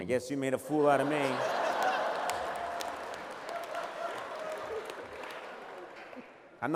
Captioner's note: laughter